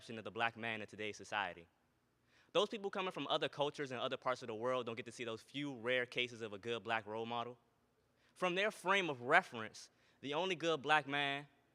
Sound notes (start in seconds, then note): none